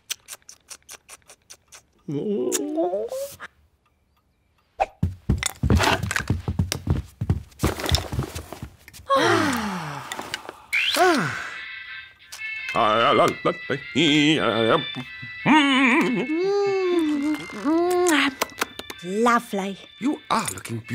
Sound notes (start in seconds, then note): 9.0 all sigh; 11.8 music playing on radio; 13.6 hums